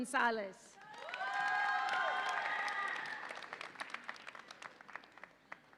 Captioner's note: audience applauds and cheers